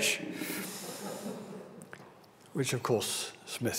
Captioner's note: audience laughs